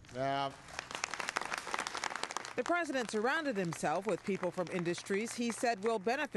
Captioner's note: applause